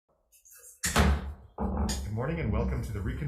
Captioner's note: gavel thuds